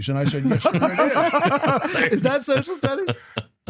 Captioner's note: laughter